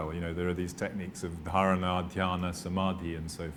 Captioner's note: non-english speech